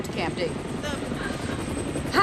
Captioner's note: helicopter hovering